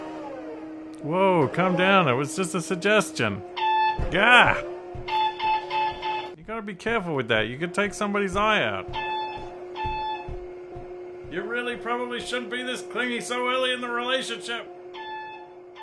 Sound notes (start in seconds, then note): 0.0 sounds of the forklift revving; 3.6 forklift repeatedly honks its horn